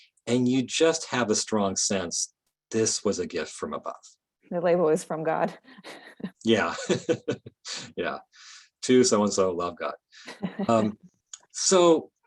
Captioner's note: both laughing